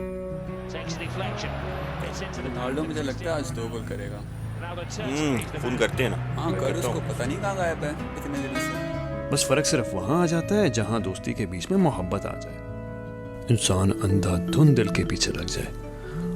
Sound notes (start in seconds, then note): 0.6 friends chattering